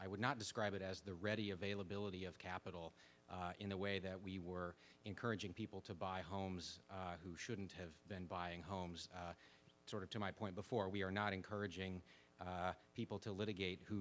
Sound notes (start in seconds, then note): none